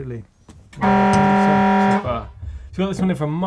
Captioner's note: buzzing